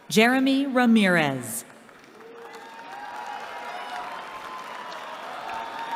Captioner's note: cheering